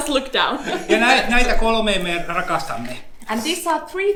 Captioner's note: speaks in Finnish language